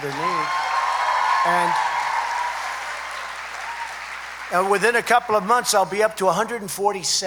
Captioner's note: applause